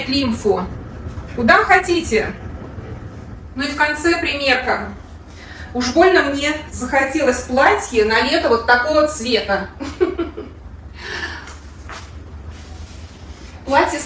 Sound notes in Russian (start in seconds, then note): 9.8 смех